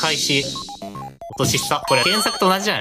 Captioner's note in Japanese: 効果音